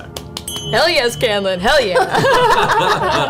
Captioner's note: rings a bell